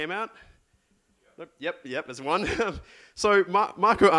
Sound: laughs

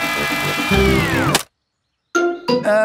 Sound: humming stops

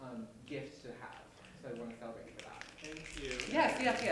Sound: snapping from audience

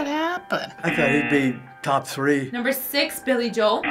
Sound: buzzer

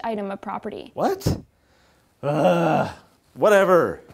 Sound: groans

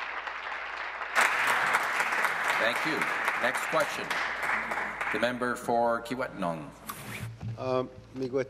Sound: applause

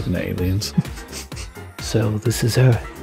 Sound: chuckles

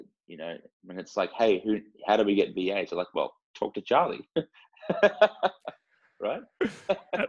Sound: laugh

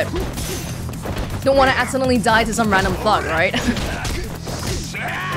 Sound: chuckles

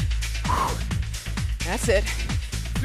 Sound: exhales

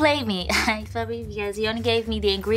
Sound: laughing

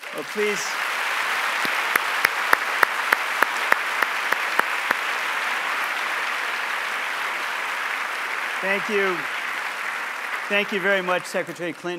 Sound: applause

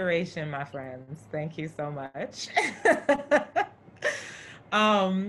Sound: laughs

